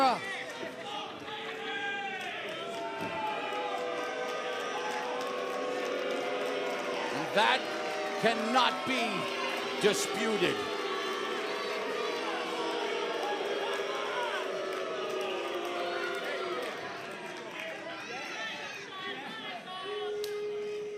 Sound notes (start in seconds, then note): 0.1 crowd cheering; 9.8 crowd chatter